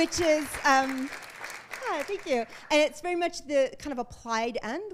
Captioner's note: applause